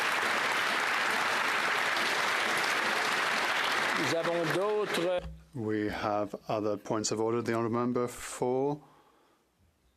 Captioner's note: applause